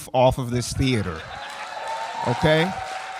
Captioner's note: audience cheering